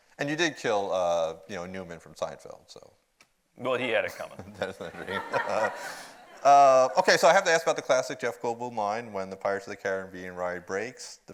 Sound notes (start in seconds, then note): 4.3 audience laughs; 6.7 laughs